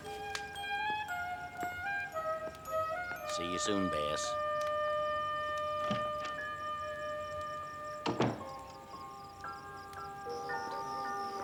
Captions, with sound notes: (soft melodic music) See you soon, Bess. (door clicking) (door thudding)